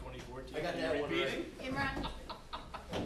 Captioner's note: background laughter